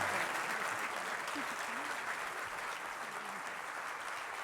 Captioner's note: applause